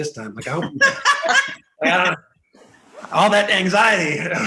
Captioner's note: group laughing